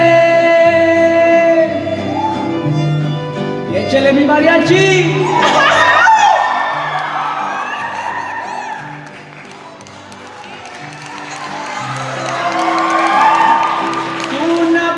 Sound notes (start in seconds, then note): 4.1 speaking in Spanish; 5.2 cheering